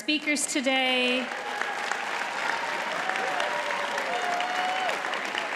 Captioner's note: audience cheers and applauds